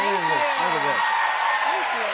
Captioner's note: cheers and applause